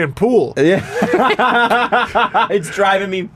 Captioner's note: laughter